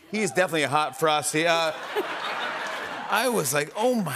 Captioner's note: laughter